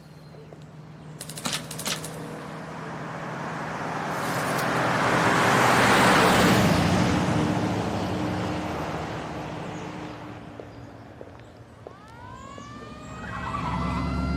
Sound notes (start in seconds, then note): 1.8 vehicle approaching; 11.9 siren wails, tires squeal